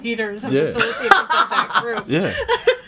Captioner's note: all laughing